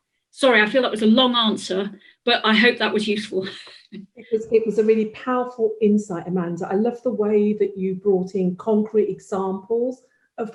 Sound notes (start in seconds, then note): 3.6 laughs